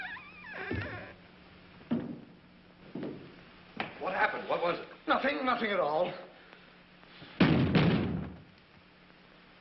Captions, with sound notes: What happened? What was it? Nothing. Nothing at all. [banging]